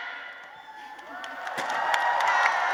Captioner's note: applause